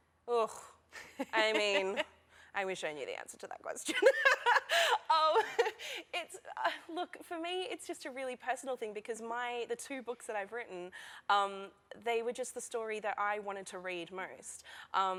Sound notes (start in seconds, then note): 3.9 laughter